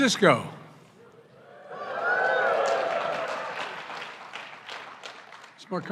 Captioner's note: applause